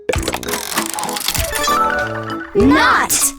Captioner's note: mechanical whirring